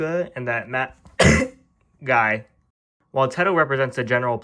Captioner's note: cough